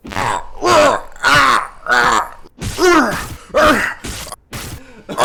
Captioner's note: repeated punching